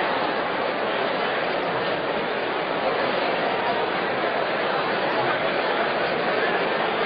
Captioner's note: random chatter